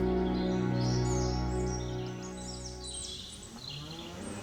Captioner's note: birds chirping